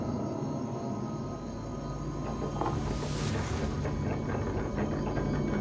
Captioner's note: rattling